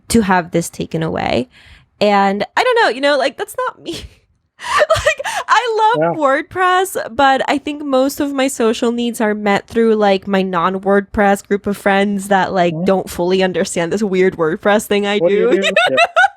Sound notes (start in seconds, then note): 4.7 laughs